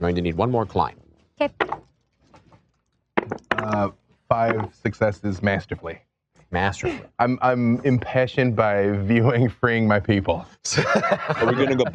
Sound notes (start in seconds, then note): 1.5 dice rolling; 10.7 laughs